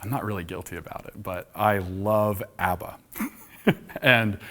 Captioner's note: laughs